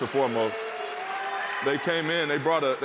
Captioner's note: cheers and applause